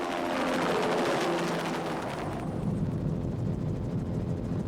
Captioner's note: helicopter blades whirring